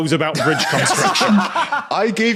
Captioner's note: laughs uproariously